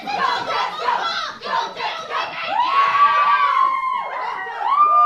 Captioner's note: Winnipeg chanting and screaming continues